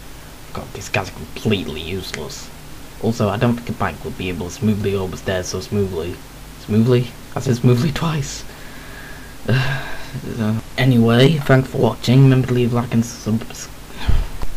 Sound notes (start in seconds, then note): 9.4 sigh; 13.9 sigh